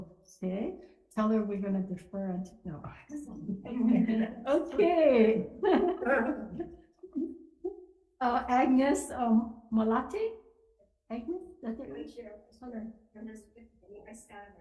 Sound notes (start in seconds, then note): 3.6 laughing